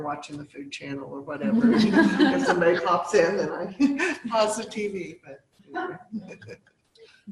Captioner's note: laughter